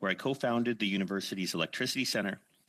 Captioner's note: speaking in French